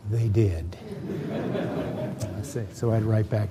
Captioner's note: laughter